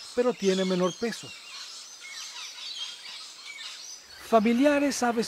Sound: birds chirps and calls, lorikeets

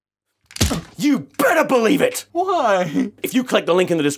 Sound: whack

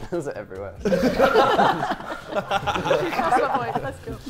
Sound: Sidemen laughing

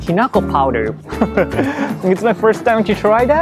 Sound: chuckles

